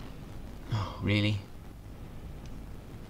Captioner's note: sigh